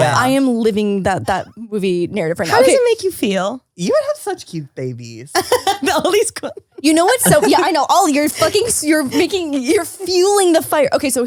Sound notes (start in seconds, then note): 7.0 laughs